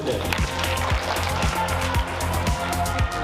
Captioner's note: applause